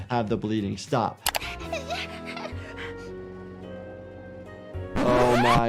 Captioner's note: Flaky crying